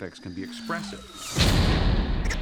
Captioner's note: crashing; chattering